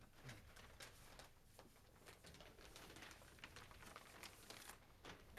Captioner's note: papers rustling